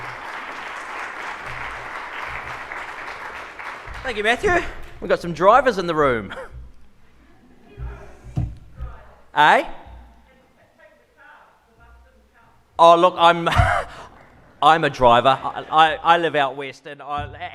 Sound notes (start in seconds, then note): 0.0 applause; 7.3 crowd murmurs